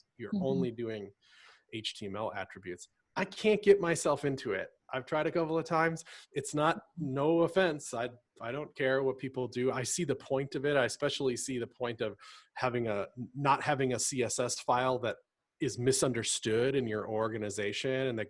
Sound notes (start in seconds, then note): none